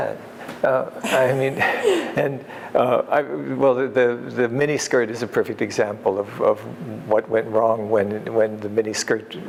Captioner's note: laughter